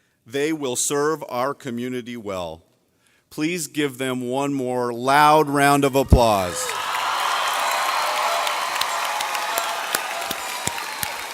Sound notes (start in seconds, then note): 7.6 audience cheers